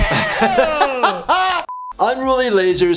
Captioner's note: laughter